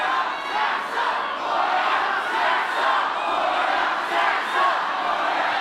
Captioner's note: audience chanting